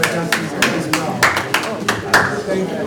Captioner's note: applause